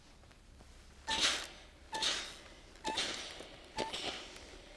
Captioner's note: iron clanks